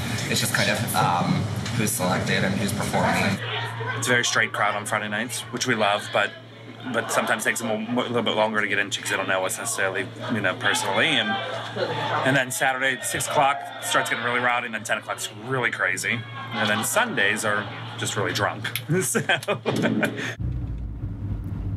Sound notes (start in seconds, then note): 18.6 laughs